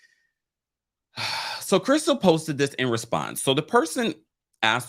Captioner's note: sighs